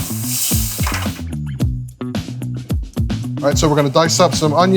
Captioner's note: pan sizzling